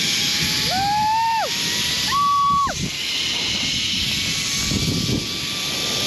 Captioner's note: cheers